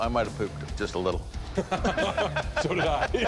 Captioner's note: laughter